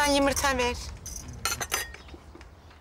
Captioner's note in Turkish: Çatal, bıçak sesleri